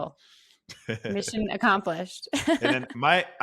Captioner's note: laughs